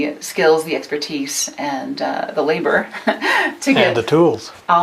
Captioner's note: chuckles